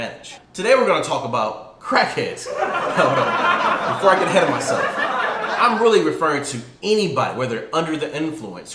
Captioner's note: animated laughter